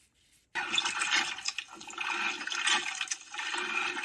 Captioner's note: water gurgles